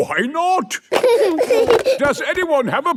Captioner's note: giggling